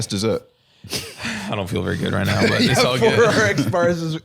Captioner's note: sighs